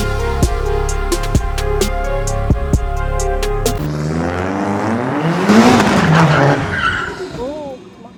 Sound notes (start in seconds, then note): 4.5 engine revving